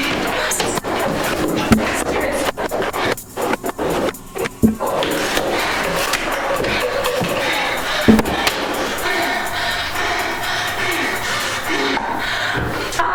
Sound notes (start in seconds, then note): 1.3 tapping